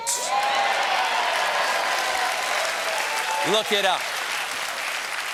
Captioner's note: cheers and applause